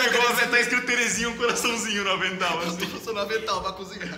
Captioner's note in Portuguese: risos; risos